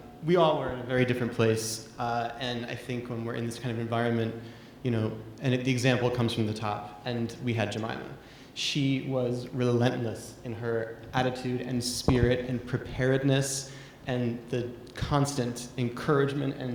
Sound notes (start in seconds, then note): none